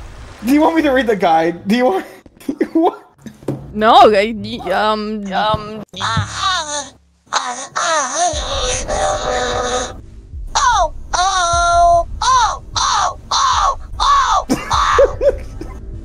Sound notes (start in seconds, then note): 7.3 moaning; 14.6 softly crying